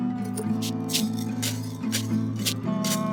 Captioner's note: soft rattling